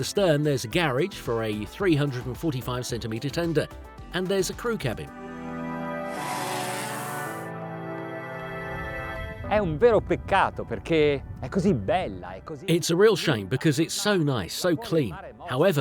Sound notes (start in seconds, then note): 6.0 light music; 9.8 speaking foreign language